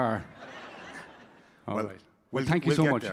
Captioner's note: audience laughing